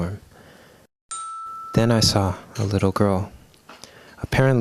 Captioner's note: chime!!